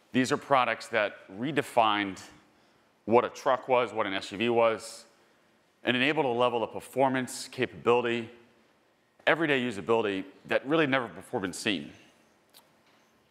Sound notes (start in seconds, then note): none